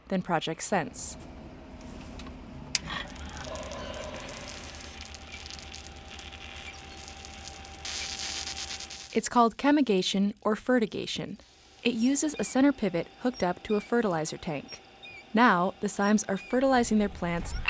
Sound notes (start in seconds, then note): 2.0 machine clicking; 5.0 water flowing